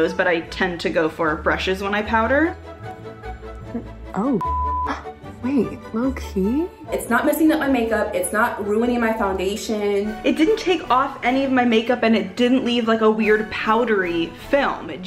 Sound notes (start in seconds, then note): 4.4 beep